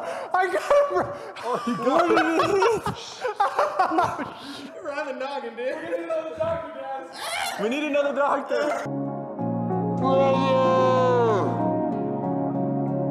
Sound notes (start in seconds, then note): 0.1 laughs again; 7.1 screams